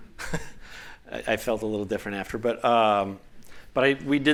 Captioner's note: laughter